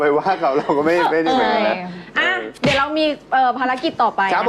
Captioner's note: punch effect